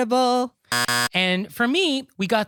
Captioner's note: buzzer Sound